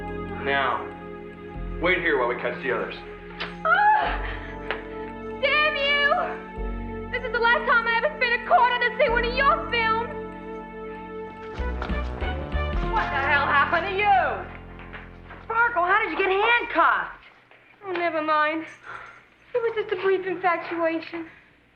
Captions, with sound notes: - Now, wait here while we catch the others. - (shrieking) Damn you! This is the last time I ever spend a quarter to see one of your films! - What the hell happened to you? - Sparkle, how did you get handcuffed? - Oh, never mind, it was just a brief infatuation.